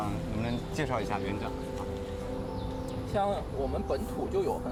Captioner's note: speaking Chinese